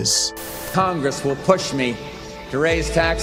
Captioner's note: Voice of George HW Bush